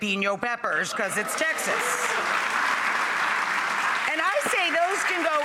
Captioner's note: audience applauds